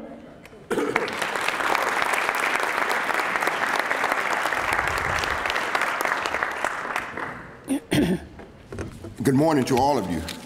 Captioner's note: applause